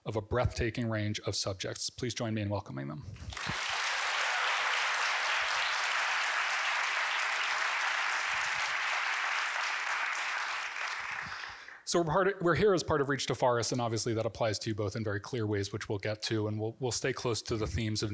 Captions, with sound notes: of a breathtaking range of subjects. Please join me in welcoming them. (audience clapping) So we're here as part of Reach to Forests, and obviously that applies to you both in very clear ways, which we'll get to, and we'll stay close to the themes